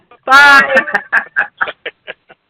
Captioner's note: laughter